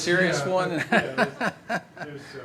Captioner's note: laughter